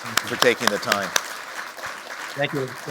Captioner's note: applause